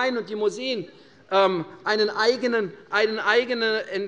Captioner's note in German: none